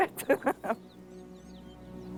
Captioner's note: laughs